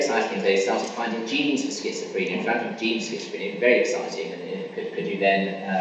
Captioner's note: coughing masks speaker